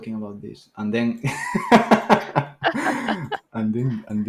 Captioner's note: laughter